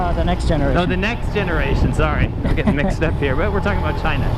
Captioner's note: chuckles